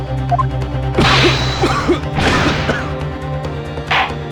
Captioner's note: cough